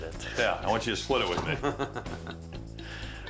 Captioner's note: chuckles